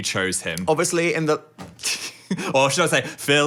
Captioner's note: laughs